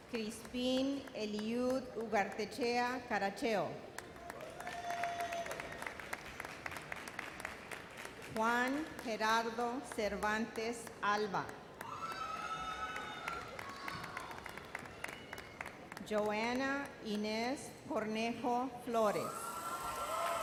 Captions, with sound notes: Crispin Eliud Caracheo. (audience applauds) Juan Gerardo Cervantes Alva. (audience cheers) Joana Ines Cornejo Flores. (audience cheers)